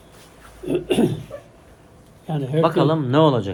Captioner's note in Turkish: boğazını temizler